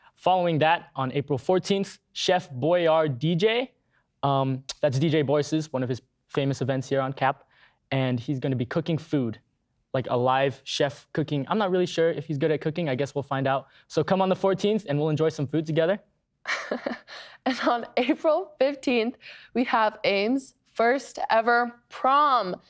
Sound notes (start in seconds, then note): 16.4 laughing